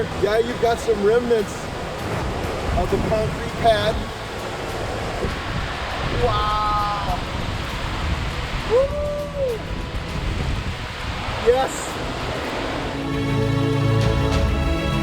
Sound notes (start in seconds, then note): 6.8 water rushing; 8.7 hooting